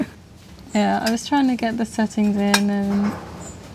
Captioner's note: laughing